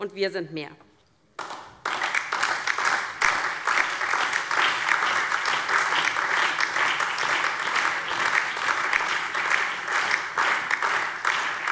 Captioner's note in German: Beifall DIE LINKE, BÜNDNIS 90/DIE GRÜNEN und SPD